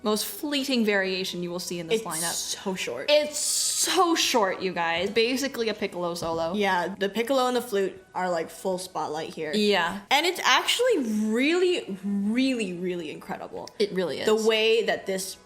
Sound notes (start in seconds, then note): none